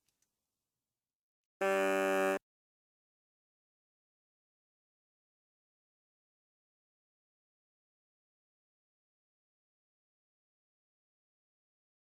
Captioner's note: horn sound